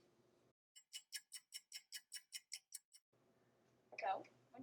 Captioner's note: clock ticking